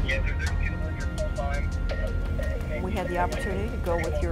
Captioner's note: police radio